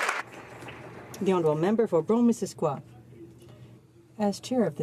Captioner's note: some Applause